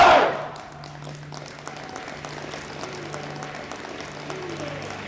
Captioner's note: audience applauding; gentle music